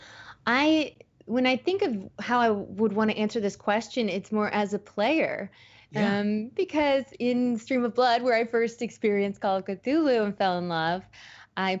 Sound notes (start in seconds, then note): none